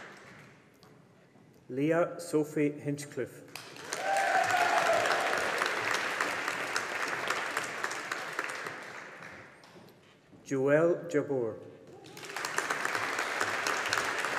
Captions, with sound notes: Leah Sophie Hinchliffe. (AUDIENCE APPLAUDING) Joelle Jabbour. (AUDIENCE APPLAUDING)